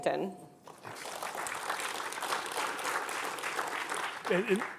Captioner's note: clapping